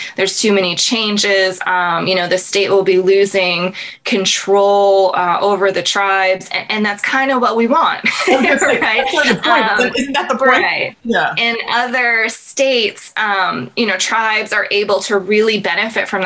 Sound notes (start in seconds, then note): 10.7 laughs